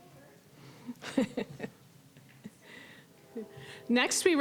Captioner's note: chuckling